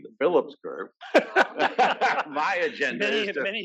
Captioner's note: laugh